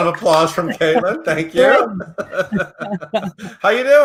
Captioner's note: laughs